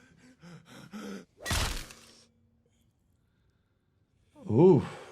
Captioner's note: person gasps; weapon thuds